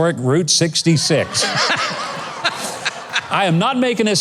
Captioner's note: laughs